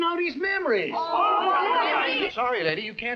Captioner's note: angry chattering